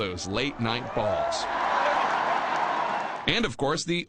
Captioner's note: cheering